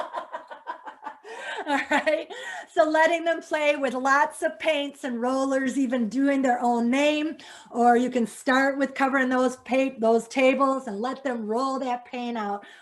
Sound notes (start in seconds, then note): 0.0 laughs